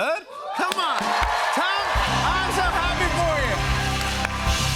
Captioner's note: cheers and applause